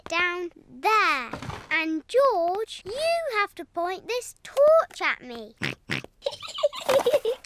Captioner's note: snorts; giggling